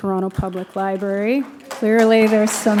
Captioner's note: applause